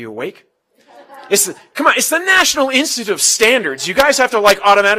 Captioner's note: laugh